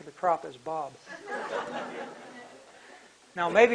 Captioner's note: laughter